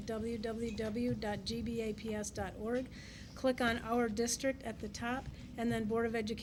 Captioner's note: none